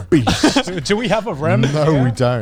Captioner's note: laughs